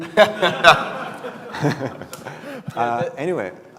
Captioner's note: laughter